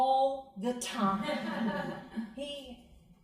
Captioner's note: crowd laughing